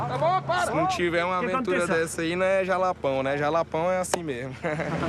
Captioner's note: Portuguese spoken audio